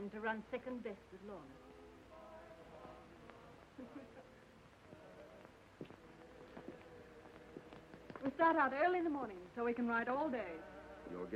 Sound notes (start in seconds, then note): 3.8 Lorna laughing